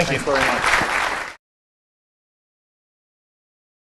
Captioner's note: applause